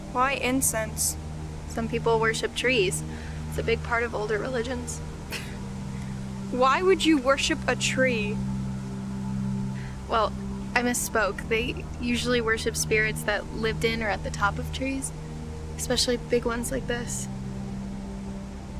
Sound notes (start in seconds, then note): 5.2 scoffs